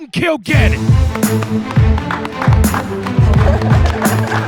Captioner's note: clapping